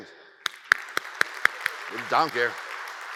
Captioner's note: audience cheers and applauds